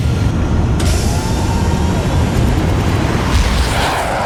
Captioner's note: loud engine sounds